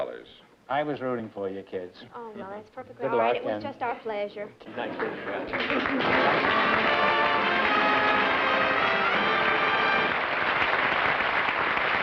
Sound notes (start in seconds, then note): 4.9 applause